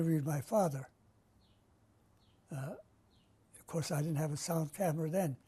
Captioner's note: pauses for 3 seconds